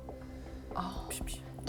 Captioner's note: smack smack